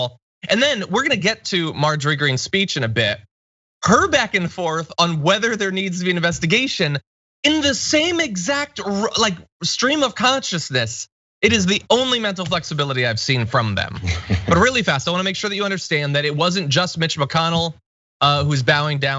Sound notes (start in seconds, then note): 13.9 laugh